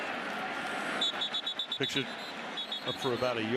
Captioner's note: whistling